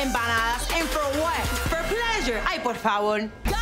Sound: speaks in foreign language

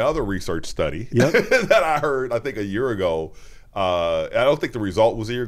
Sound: laughs

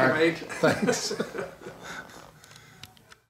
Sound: laughing

